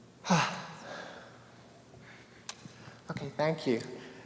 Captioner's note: exhales deeply